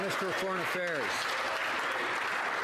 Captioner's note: some Applause